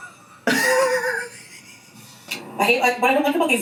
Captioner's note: laughs; reactor laughs